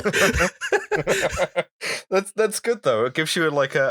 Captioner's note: laughter